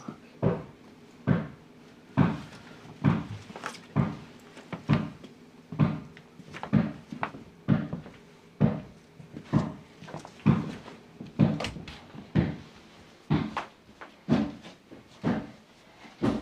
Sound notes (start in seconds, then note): 8.0 footsteps shuffle